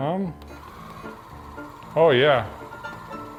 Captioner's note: vibrating table whirring